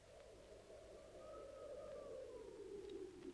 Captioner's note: wind howling in distance